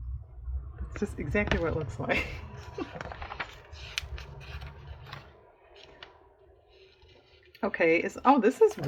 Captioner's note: laughs